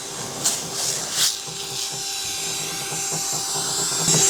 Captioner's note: motor whirring